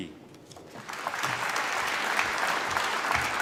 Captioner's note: applause